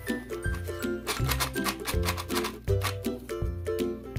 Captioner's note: playful music; toy drilling; playful music